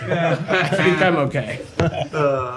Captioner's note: laughter